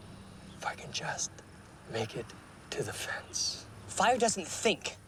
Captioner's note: none